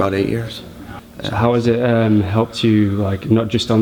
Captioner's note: voiceover